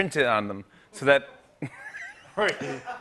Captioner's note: laughs